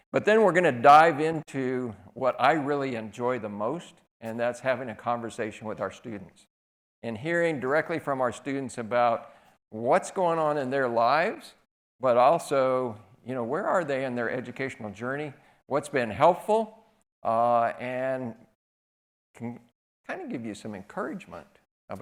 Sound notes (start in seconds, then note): none